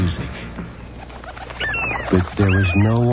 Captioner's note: sound effects: seagulls